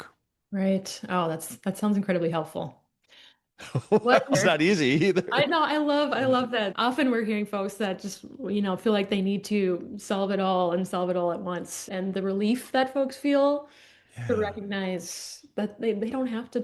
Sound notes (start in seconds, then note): 3.6 laughter